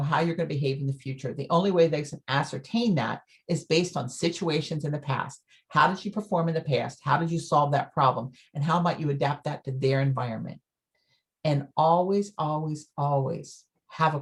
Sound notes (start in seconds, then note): none